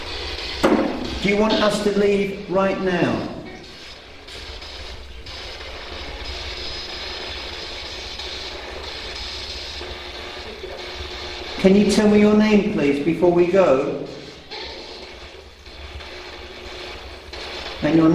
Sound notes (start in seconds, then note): 4.0 static buzzing; 15.5 static buzzing